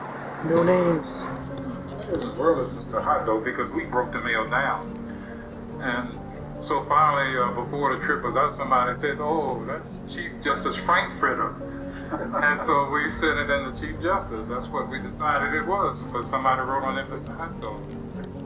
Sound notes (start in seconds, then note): 4.2 Morgan Freeman narrating in the background